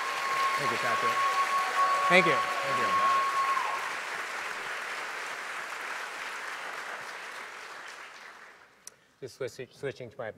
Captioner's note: cheers & Applause